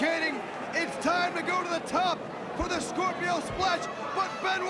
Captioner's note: crowd cheering